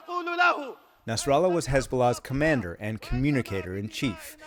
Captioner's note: voice-over